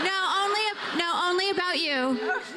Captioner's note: laughter